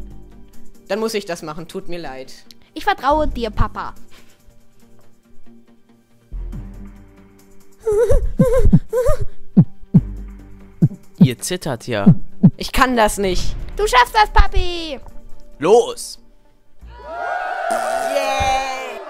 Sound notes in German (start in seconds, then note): 7.8 ängstliches Zittern, Herzklopfen; 16.8 Jubeln